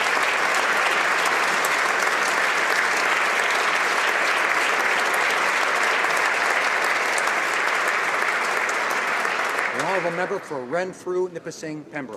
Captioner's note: applause